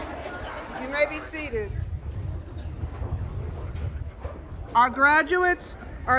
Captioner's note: cheers and applause